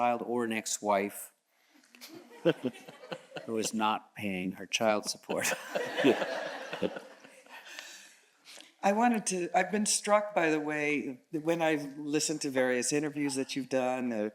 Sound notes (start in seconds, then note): 2.1 chuckles; 5.3 all chuckles